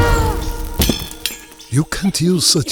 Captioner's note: gasping; metal clangs